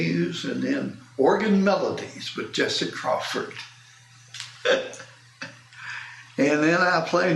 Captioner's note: laughs